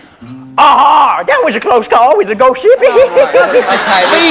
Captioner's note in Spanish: Acento yankee